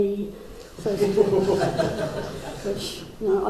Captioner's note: crowd laughs